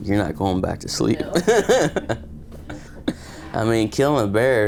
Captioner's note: chuckles